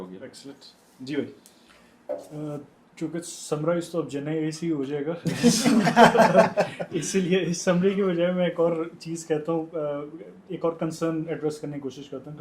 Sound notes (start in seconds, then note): 5.2 laughter